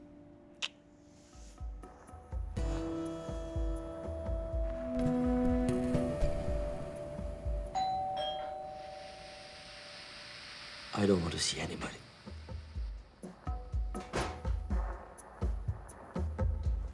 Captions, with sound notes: (suspenseful music) (doorbell ringing) I don't want to see anybody. (suspenseful music)